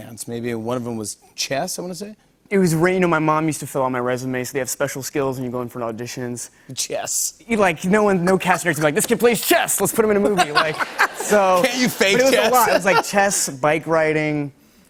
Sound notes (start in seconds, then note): 6.8 laughs; 9.9 laughter